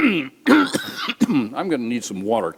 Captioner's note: coughs